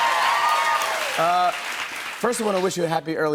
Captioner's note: cheers and applause continue